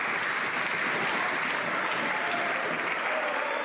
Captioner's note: some Applause